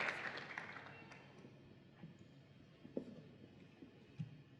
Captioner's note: applause